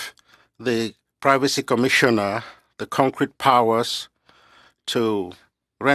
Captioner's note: speaking French